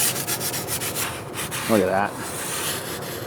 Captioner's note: metal scraping